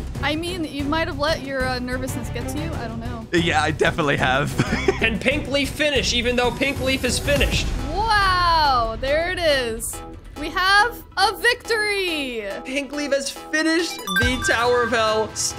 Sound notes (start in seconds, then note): 4.6 laughs; 11.4 upbeat electronic music